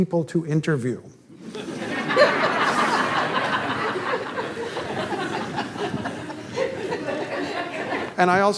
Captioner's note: audience laughter